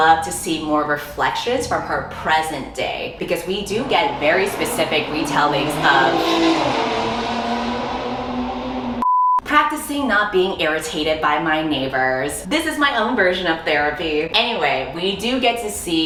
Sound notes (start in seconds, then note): 6.3 loud ass motorycle revving engine noise